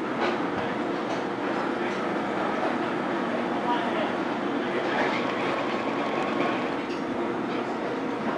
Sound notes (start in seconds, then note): 4.5 mixer whirring